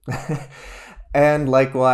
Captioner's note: laughs